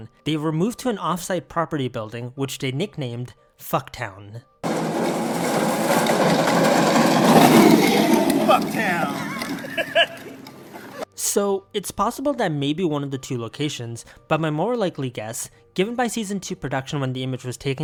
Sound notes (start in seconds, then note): 4.6 fast approaching toy car thing; 8.4 laughing